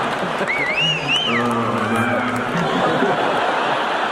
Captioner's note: whistling; crowd laughing